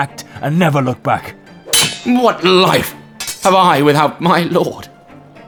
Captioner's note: swords Clash